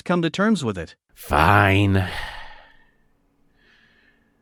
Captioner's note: sigh